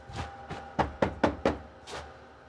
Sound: knocking

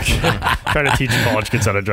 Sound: laughing

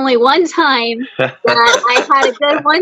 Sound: all laughing

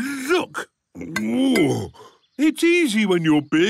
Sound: grunts

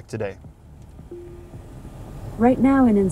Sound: Alexa chimes

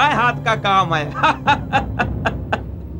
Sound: laughs

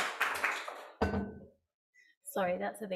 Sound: water bottle clunks

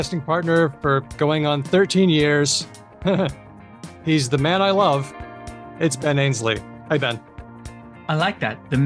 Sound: chuckles

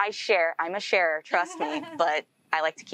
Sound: host laughing

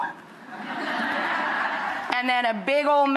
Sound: audience laughing

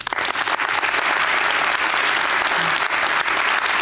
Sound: applause

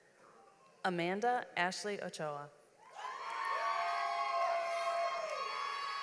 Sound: audience applauds

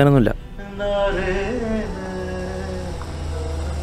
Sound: radio playing

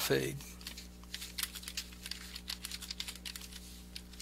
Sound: computer clicks

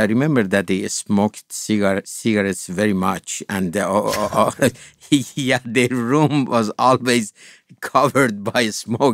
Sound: laughs

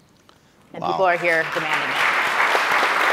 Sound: audience applauding

